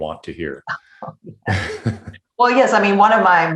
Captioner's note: laughs